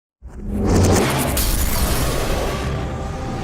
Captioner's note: storm sounds